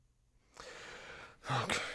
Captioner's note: exasperated sigh